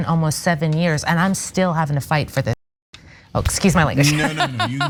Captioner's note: laugh